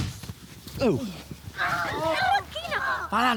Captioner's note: confusion and sounds of a brawl